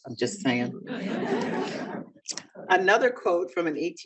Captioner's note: audience laughing